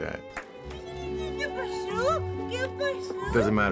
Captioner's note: non-english speech